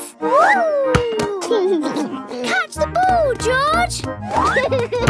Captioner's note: giggles